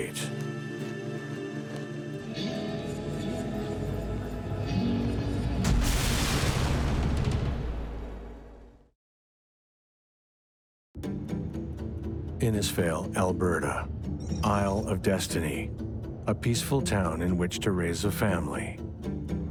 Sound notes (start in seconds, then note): 0.3 intense music; 5.6 thunderous explosion